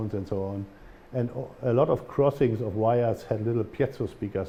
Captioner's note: german